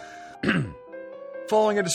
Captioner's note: coughs